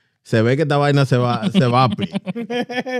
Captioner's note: speaking In Foreign Language